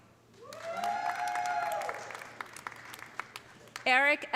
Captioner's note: audience cheering; audience applauding